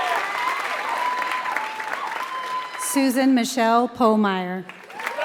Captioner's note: applause; applause